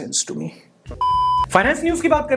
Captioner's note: beep